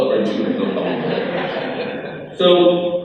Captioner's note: crowd laughs